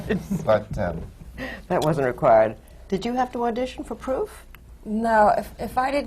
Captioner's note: laughs